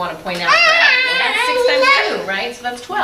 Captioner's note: child yells